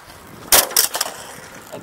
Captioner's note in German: krach